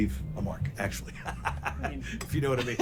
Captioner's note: laughs